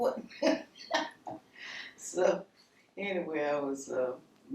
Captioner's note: chuckling